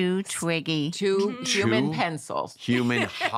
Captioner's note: laughs